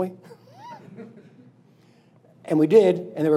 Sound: laughing

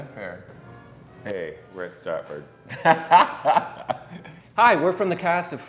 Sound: laughs

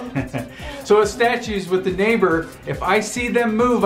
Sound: laughing

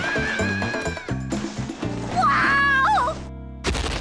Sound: screaming

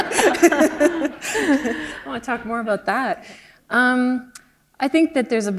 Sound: laughter

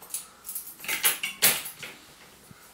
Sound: key sounds

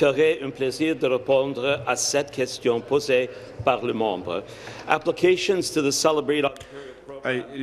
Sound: speaking in French

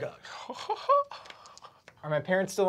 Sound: laughs sadly

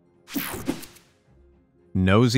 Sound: picture swooshes

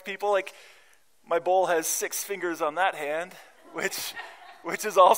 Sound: laughter

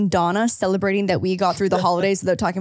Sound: laughs

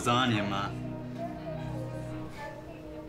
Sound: hospital announcements

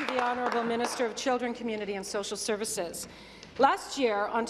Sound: applause

